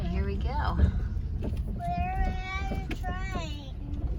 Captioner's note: car bouncing over railroad tracks